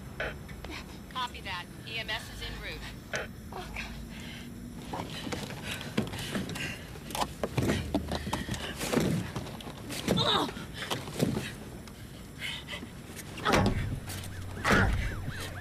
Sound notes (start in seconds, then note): 6.0 door thunks; 9.6 groans; 13.3 siren wailing